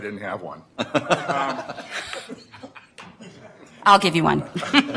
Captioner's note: laughter